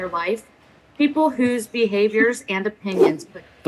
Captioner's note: giggles